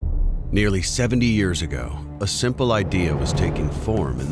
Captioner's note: voiceover